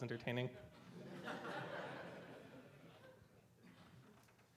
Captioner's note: audience laughs